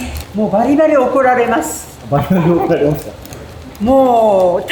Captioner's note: laughs